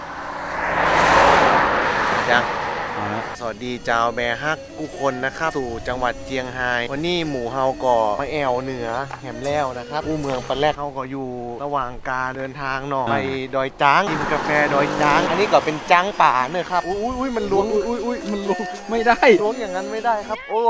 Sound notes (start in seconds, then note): 5.3 speaks with Northern accent